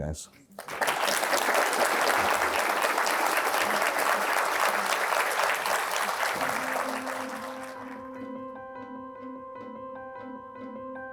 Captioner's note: applause